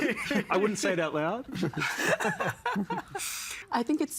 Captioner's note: all laughing